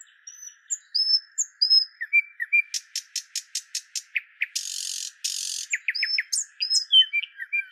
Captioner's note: birds chirping